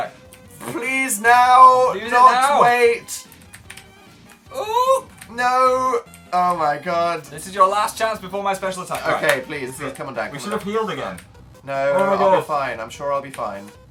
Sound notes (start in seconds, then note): 5.4 strained